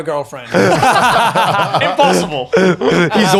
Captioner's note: laughing